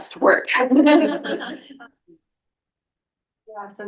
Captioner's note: laughter